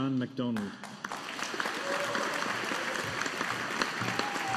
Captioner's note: audience applauding